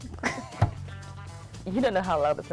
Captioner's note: giggling